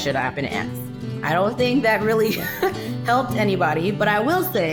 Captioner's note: chuckles